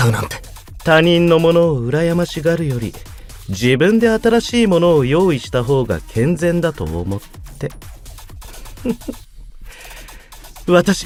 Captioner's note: creepy giggle